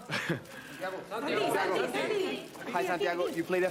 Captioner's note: reporter clamour